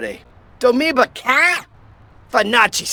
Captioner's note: parrot sounds